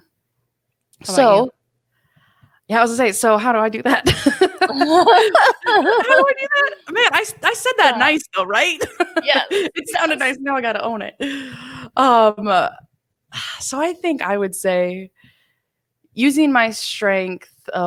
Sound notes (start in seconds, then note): 4.0 both laugh